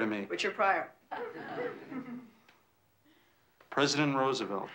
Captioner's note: kids laughing